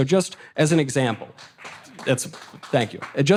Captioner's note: audience applause